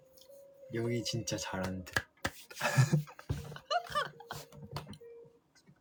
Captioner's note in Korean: 웃음